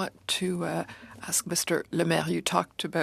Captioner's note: speaking in french